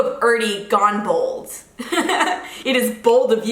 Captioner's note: laughs